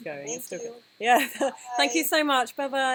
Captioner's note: laughter